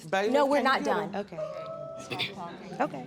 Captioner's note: faint catcall